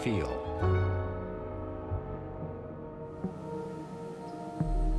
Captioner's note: train whistling